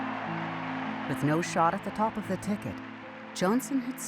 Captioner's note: crowd cheering